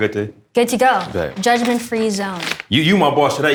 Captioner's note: bag seal opens